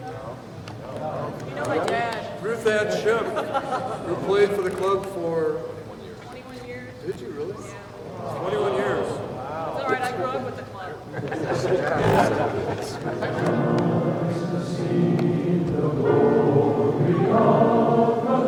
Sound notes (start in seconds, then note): 11.2 choir chuckling